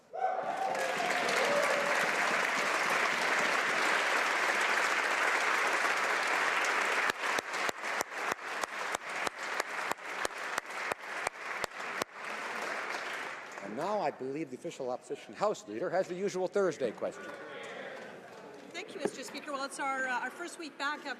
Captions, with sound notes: NUNAVUT OUR LAND OUR PEOPLE, AND THE KAYAK PROGRAM. -- FOCUS. [ Applause ] NOW I BELIEVE THE OFFICIAL